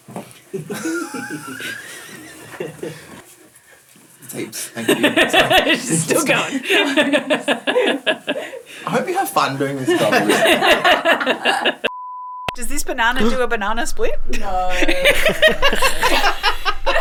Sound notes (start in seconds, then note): 0.5 chuckling; 7.3 laughing; 9.7 laughing; 14.7 laughing